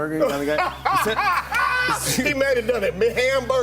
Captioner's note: laughs